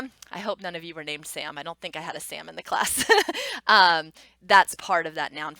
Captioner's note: laughs